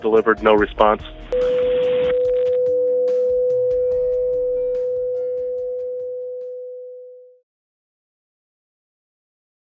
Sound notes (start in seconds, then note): 1.3 beep